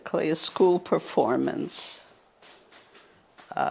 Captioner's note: pauses 6 seconds